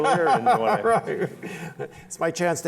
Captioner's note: laughter